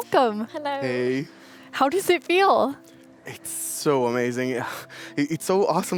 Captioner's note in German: musik ertönt, sirene heult